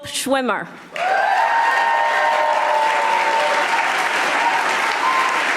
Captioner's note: audience applauding